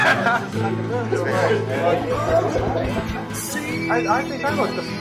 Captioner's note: laughing